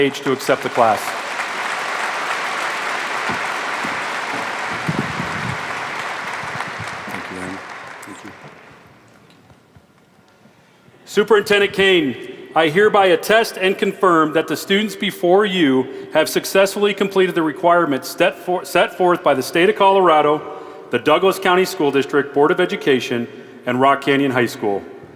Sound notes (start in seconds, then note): 7.1 applause